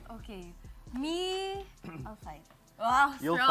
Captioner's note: clears throat